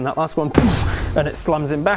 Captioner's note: boooosh